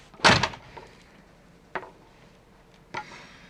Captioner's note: door closing